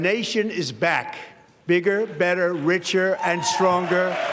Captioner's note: applause